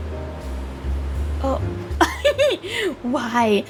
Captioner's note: laughs